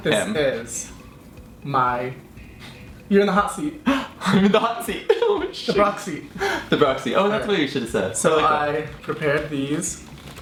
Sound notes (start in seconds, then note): 3.9 gasps